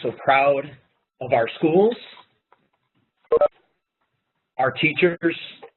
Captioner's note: pause